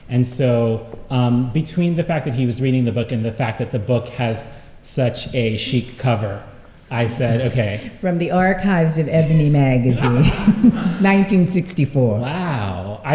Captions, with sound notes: And so between the fact that he was reading the book and the fact that the book has such a chic cover, I said OK. From the archives of Ebony magazine. [LAUGHTER] 1964. Wow.